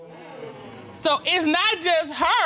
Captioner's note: audience exclaims